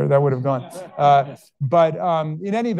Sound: all laughing

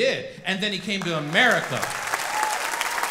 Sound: audience clapping

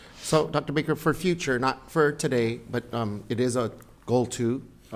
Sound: none

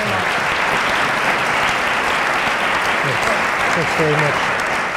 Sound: applause

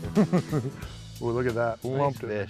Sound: laughter

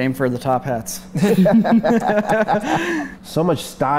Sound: laughter

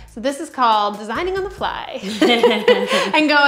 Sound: laughs

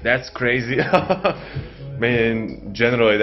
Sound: laughing

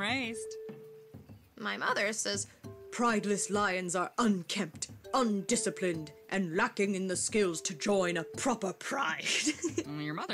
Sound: imitating mother; laughs

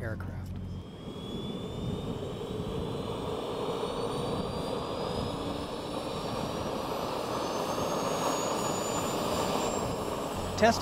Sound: engine Sounds

